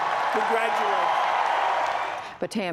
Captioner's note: cheering and applause